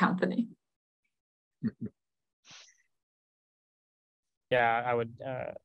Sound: chuckles

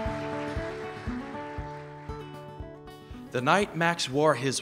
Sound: applause

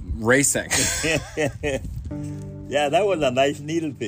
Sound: laugh

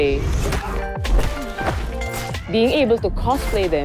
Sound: cosplayers grunting

